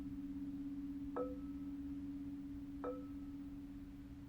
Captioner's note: tapping bell steadily